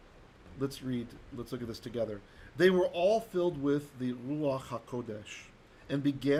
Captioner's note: Hebrew